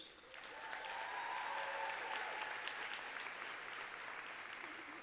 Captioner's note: audience applauding